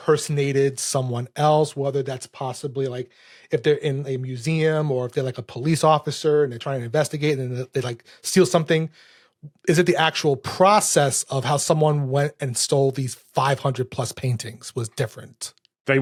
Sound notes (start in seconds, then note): none